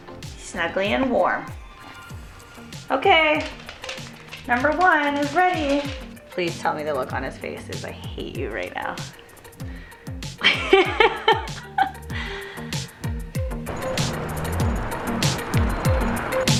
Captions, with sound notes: Snuggly and warm. Okay. Number one is ready. Please tell me the look on his face is "I hate you right now." (laughs) (bouncy mid tempo music)